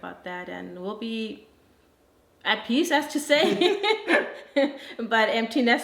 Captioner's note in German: lacht